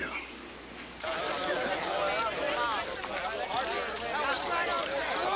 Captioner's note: townsfolk chatter